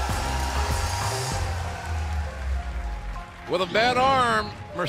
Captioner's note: cheers and applause